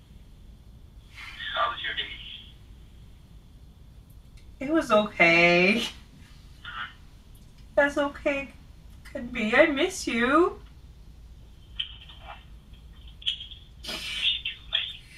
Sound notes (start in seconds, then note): 7.9 tearfully; 13.8 sniffles